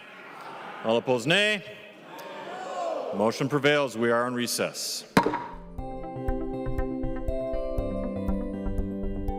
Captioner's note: chorus of ayes